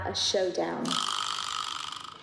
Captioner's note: spinning sound effect